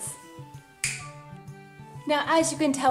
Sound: snapping

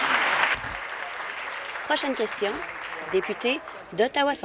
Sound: applause

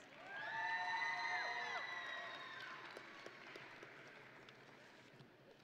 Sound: audience and graduates cheering

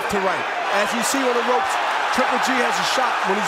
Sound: cheers and applause

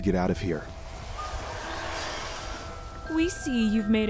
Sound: flies buzzing

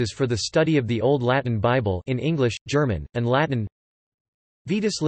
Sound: in English, German, and Latin

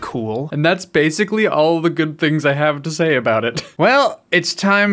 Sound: laughs

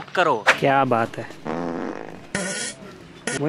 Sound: pooping noises

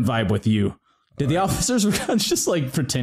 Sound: begins laughing

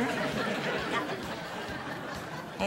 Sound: laughter

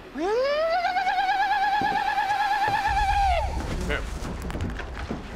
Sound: shouts war cry

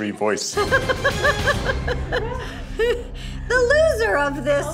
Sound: laughing

